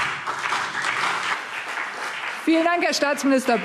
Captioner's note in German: Beifall